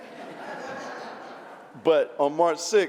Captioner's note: laughter